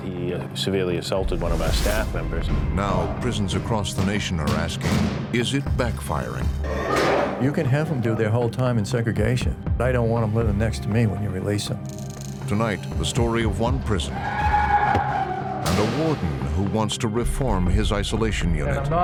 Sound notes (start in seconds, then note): 14.3 prisoner yelling